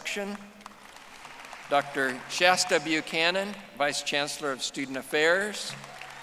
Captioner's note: audience applauding